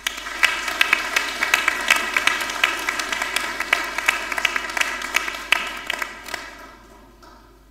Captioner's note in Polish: oklaski